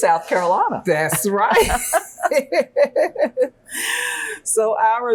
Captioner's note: laughing